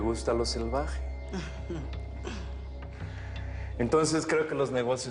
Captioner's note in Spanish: Ríe